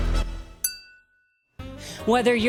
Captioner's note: glass clings